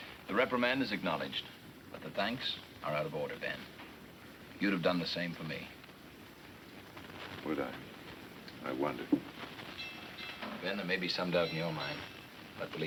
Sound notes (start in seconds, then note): 9.8 bell clanging